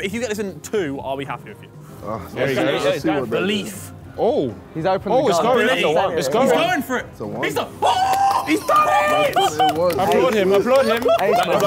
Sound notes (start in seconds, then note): 7.8 cheering; 8.0 clapping